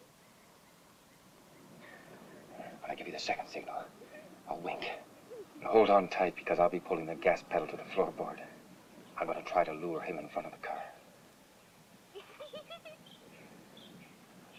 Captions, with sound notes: - When I give you the second signal, I'll wink. But hold on tight, because I'll be pulling the gas pedal to the floorboard. I'm going to try to lure him in front of the car. (Judy giggling)